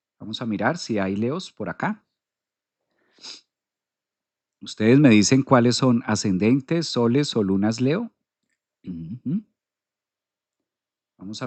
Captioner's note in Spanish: resoplido